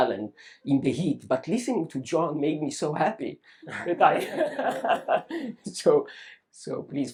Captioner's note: laughs